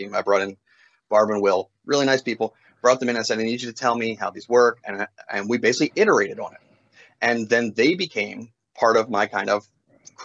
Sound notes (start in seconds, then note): none